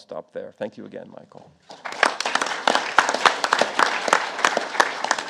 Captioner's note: audience applauding